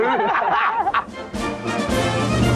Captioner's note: all laugh; upbeat music